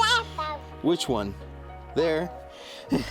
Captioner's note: laughing